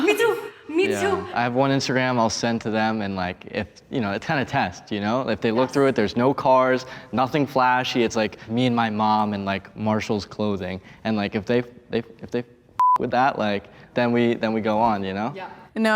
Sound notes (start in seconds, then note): 12.8 beep